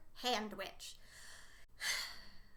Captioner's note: deep sigh